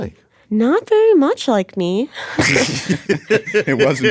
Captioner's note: laughs